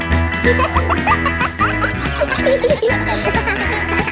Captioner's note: kids laughing; pop music playing